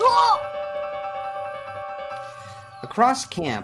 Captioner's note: Mary groaning